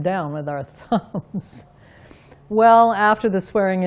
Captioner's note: laughs